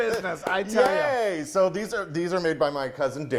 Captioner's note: they both clap